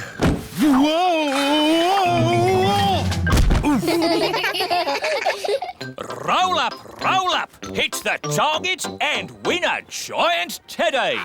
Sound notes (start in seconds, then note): 3.2 thud; 3.6 all giggle